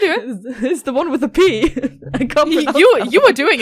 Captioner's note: laughs